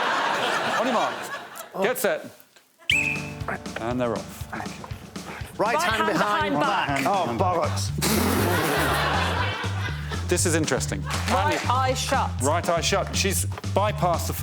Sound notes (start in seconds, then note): 1.8 laughter; 2.8 blows whistle; 11.1 laughs